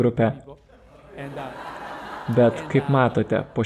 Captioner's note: laughter